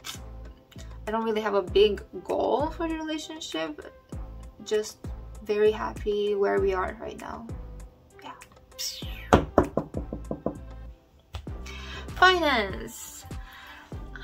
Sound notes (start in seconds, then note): 9.3 knocks on wood